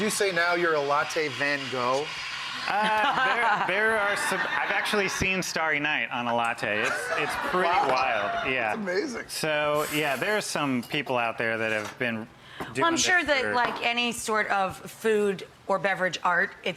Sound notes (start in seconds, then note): 2.5 audience laughs; 2.7 laughs